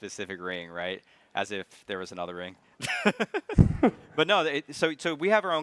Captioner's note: chuckles